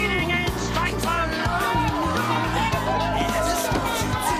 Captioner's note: cheering